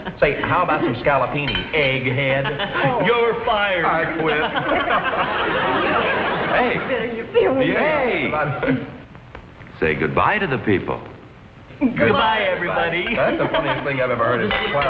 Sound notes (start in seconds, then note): 3.6 laughs; 5.2 all three laugh